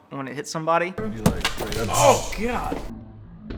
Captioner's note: thuds